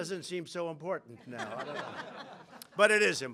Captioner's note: laughter